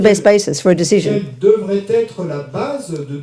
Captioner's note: speaking in French